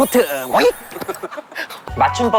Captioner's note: hahahaha